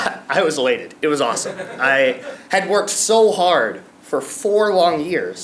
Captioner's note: laugh